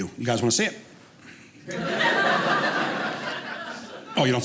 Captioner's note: audience laughing